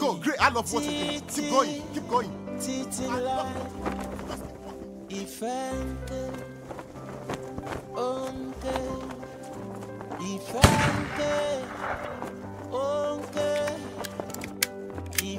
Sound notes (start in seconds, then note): 2.9 singing in foreign language; 10.6 gun fires